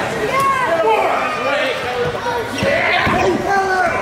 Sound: crowd yelling

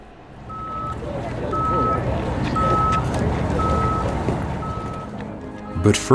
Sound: beeping

